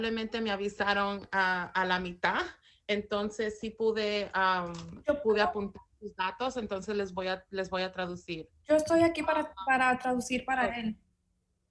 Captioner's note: speaking in spanish